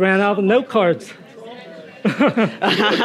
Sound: audience chattering; Nadine laughing; laughing

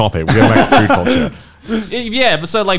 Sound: laughing softly

